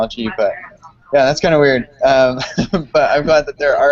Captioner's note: laughs